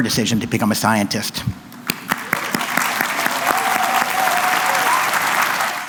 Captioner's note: applause